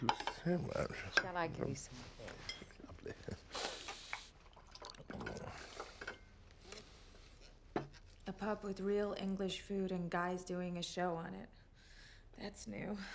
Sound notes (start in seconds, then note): 3.4 wine sloshing